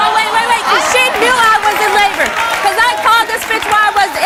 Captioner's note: audience applauds